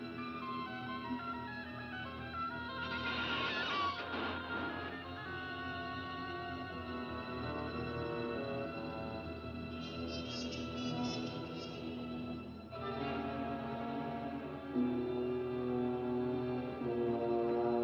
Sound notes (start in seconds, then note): 2.9 creaking and clanging; 5.8 eerie music; 12.7 suspenseful music